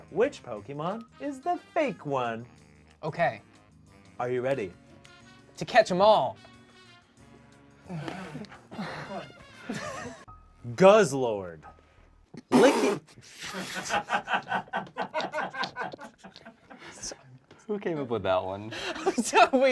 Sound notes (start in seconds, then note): 13.4 laughs